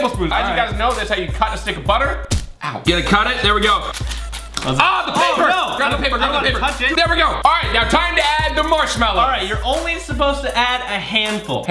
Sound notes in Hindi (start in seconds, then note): 2.1 गिरने की आवाज़